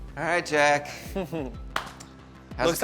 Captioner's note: chuckles